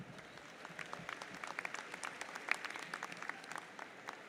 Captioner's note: audience applauds